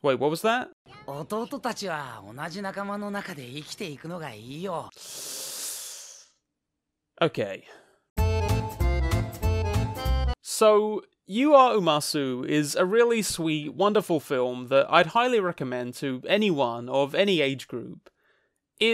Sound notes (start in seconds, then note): 1.0 Heart speaks in foreign language; 4.9 inhaling sharply; 8.1 playful music